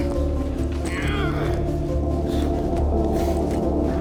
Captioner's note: grunting